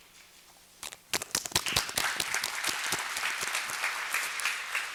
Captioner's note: applause